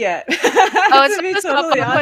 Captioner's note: laughs